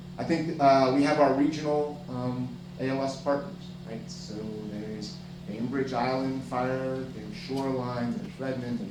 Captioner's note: none